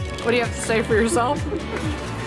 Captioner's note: laughing